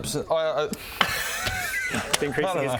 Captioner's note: giggles